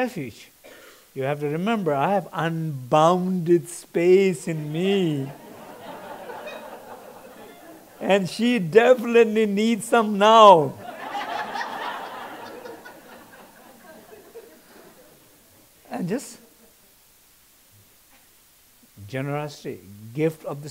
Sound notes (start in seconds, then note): 10.7 laughter in audience